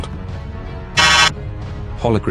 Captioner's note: buzz